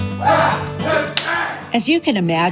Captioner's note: yelling during martial arts move